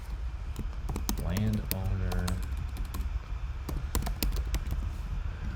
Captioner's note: keyboard clacking